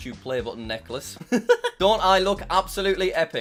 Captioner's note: laughs